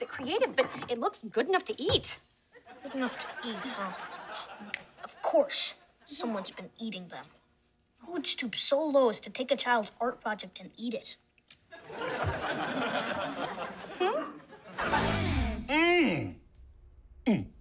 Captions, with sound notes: but it looks good enough to eat. Good enough to eat, huh? [snapping] Of course. Someone's been eating them. Who would stoop so low as to take a child's art project and eat it? Hmm? Mm! Mm.